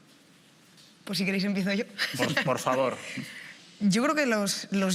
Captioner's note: laughs